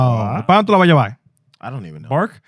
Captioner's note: speaking In Foreign Language